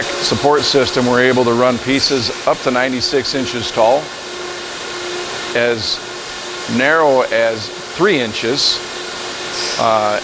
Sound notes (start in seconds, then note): 3.8 loud machine noise; 8.2 machine noise